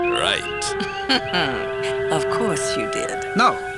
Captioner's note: chuckles